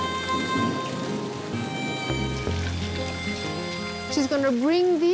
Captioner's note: thunder rumbles